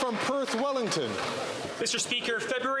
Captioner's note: some Applause